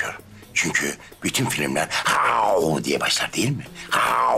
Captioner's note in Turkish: Kükreme sesi; Kükreme ses